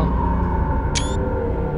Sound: launch_select.wav

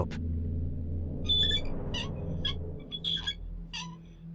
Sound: pulley squeaking

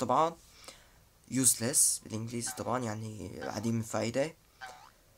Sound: explaining in Arabic

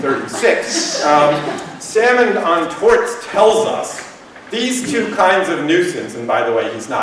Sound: laughter

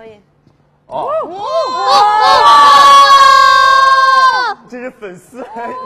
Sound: screaming

